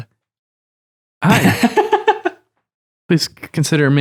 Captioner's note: laughter